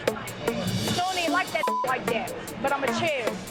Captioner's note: beep